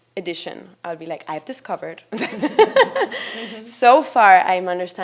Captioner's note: laughs